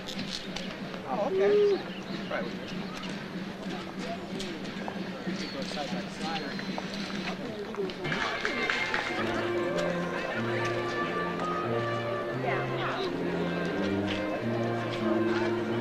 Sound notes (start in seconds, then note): 2.0 slow drum playing; 3.4 overlapping chatter; 7.4 overlapping chatter; 8.1 slow brass music; 8.7 overlapping chatter